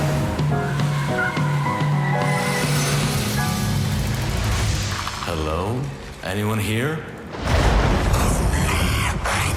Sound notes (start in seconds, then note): 2.6 brakes screeching